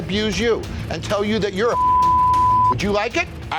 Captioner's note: beep